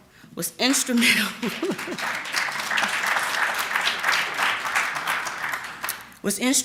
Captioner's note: applause